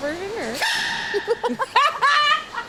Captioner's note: baby panda sneezes; everyone laughs